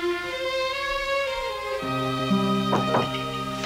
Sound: knocking on door

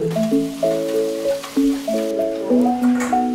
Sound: sizzling

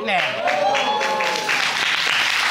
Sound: audience cheering; audience applauding

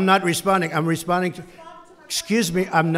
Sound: off-mic

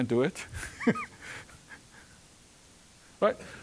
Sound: chuckling

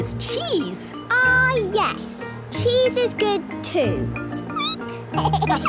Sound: squeaking; laughter

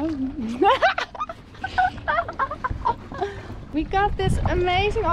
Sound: laughs

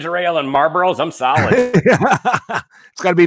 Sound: laughing

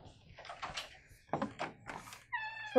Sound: knock; door opening

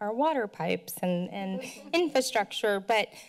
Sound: laughter

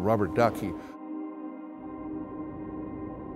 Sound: wind

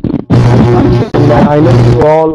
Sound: microphone screeching

